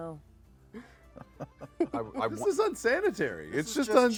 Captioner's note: laughs